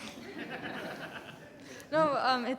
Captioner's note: audience laughing